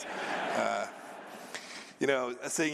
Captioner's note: laughter